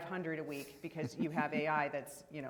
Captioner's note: laughing